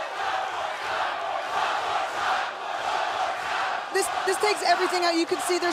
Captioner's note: fans chanting